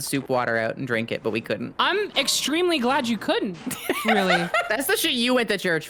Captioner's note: laughs